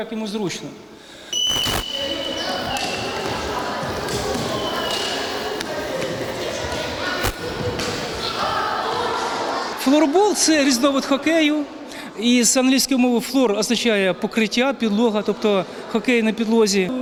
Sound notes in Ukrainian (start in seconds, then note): 1.3 звук свистка; 2.3 шум під час гри в залі